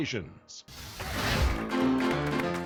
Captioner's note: fire whooshes; upbeat piano music